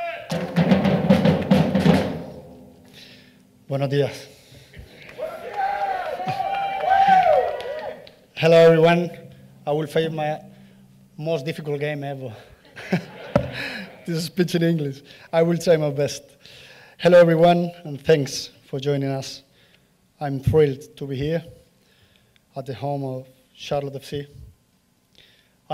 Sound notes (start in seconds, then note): 2.4 applause; 12.6 laugh